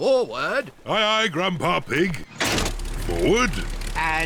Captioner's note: lever clunks